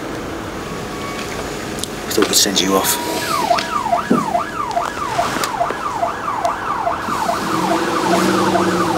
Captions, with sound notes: We thought we'd send you off. (SIRENS)